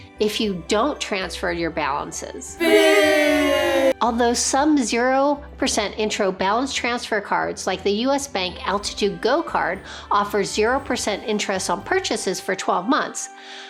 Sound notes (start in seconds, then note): 2.6 people booing